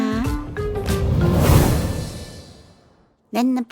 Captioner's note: portal closes